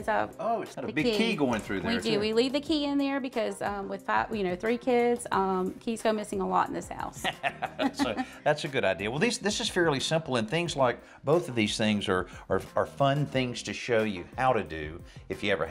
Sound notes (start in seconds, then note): 7.2 laughter